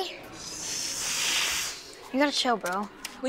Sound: hissing

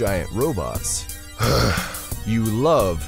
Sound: sighs

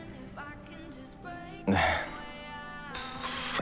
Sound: chuckles

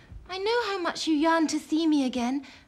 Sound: none

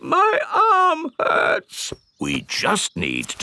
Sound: in teddy's voice; in normal voice

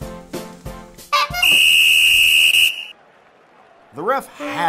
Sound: bike horn; whistle

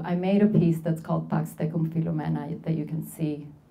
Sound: speaking Spanish

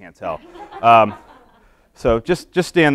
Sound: laughing

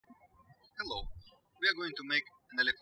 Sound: birds chirping

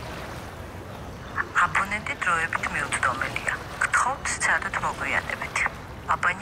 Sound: speaking georgian

